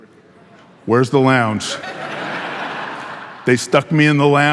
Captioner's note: audience laughing